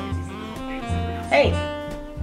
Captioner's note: shouts at other cat